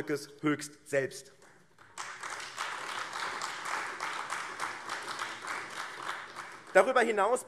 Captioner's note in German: Beifall AfD